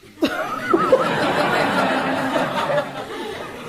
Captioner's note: audience laughing